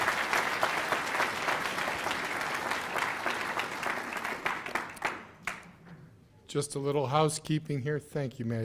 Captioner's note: cheers and applause